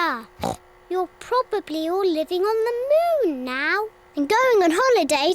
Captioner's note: oinks